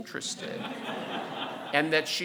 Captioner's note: audience laughing